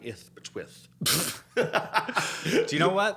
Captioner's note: both laughing